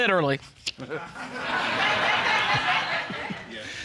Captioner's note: audience laughing